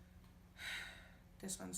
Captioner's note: sigh